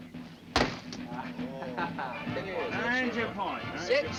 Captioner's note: chattering